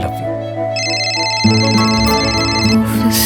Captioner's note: phone ringing